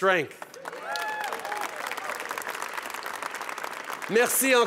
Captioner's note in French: Acclamations et applaudissements